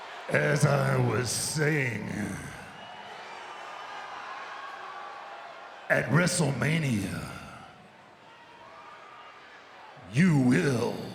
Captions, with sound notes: As I was saying. (audience cheers) At WrestleMania, you will